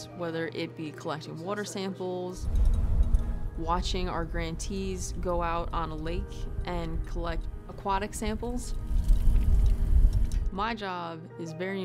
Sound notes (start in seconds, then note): 2.5 winch winding; 8.8 water spilling from equipment